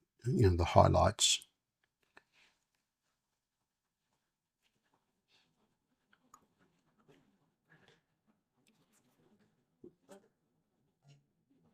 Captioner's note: silence